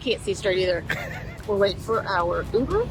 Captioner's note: chuckles